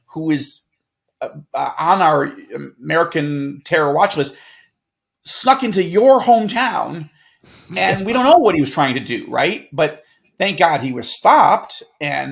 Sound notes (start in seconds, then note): 7.5 chuckles